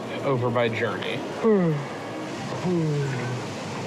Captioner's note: yawns